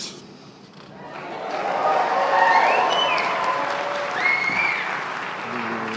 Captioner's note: applause